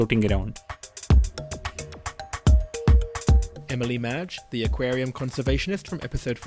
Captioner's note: voiceover